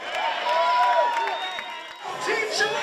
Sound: crowd cheering

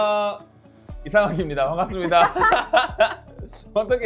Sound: energetic music; both laugh

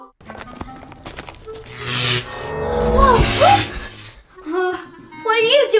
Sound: choral music continues; footsteps patter; electric noise buzzes

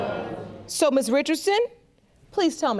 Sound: audience exclaims

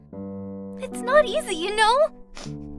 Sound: sniff

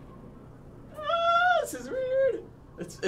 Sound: squealing

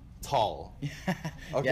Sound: laughs

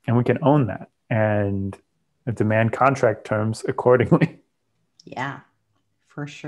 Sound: laughs

